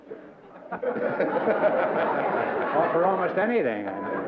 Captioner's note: laughter